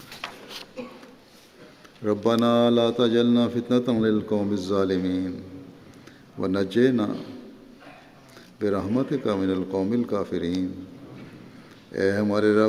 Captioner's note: Arabic